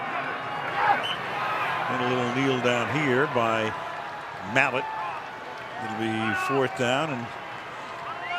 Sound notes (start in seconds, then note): 1.0 whistle